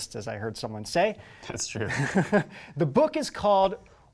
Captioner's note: chuckling